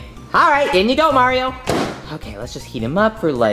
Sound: door thuds

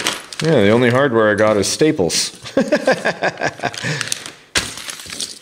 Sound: laughs

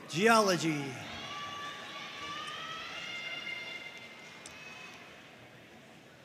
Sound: audience cheering and applauding

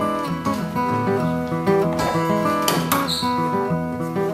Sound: crashing under music

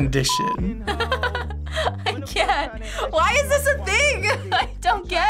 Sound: laughs

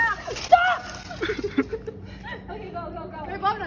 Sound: laughter

